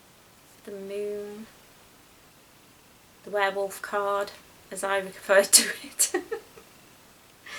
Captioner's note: laughs